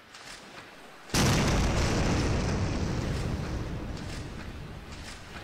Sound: volcano explodes

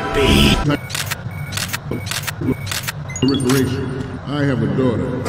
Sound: A bunch of camera noises

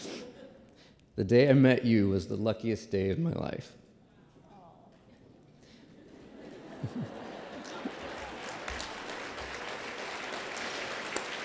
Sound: applause

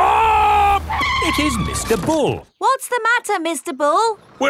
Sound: tires screeching

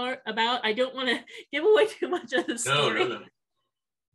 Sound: laughs

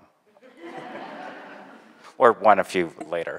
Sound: laughter

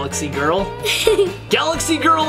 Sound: laughing

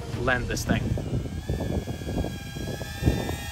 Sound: drone whirring

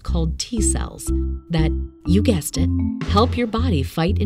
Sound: object thuds

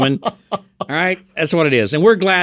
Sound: laughing

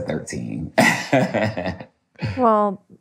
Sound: laughs

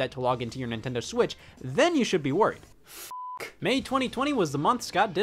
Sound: beep

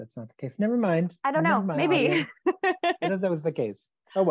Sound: laughs

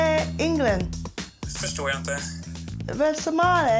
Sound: speaking Swedish

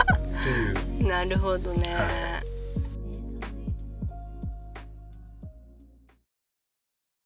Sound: laughs

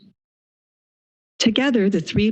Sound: silence

